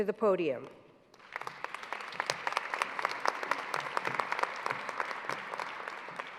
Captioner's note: applause